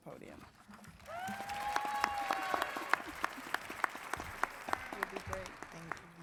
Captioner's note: audience cheers and applauds